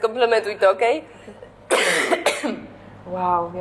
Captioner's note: coughs